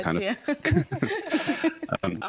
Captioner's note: hosts laugh